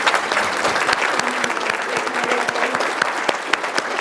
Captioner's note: audience applauds